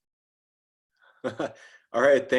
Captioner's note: chuckle